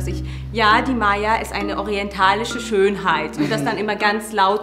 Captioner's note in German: laut